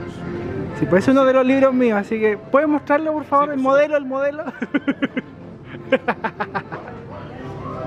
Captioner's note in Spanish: risas